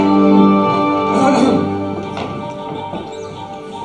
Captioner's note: Arbiter clears throat